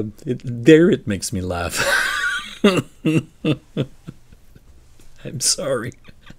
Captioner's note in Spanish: Risas